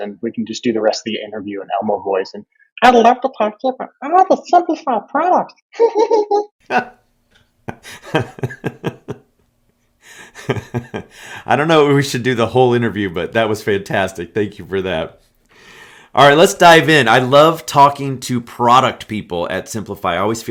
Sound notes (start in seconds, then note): 6.6 laughing; 6.6 laughs